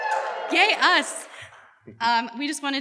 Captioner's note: audience cheers